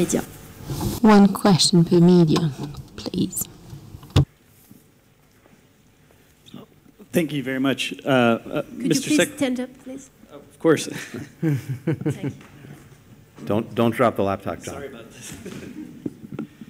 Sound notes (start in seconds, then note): 10.9 laughter; 15.2 laughter